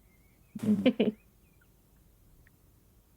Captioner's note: Stef giggles